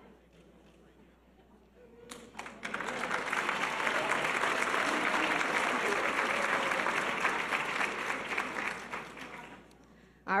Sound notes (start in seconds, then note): 2.3 audience applause